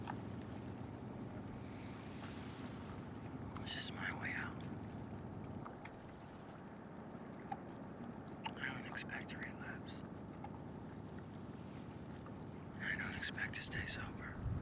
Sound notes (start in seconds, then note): none